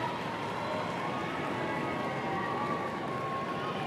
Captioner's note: applause